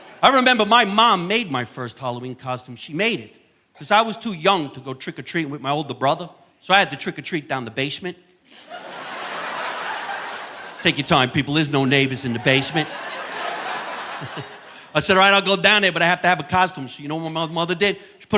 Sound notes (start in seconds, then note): 0.0 audience laughing; 8.5 audience laughing; 13.8 audience laughing; 14.2 chuckles